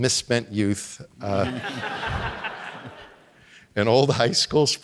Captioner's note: audience laughing